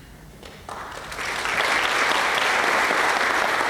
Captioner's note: applause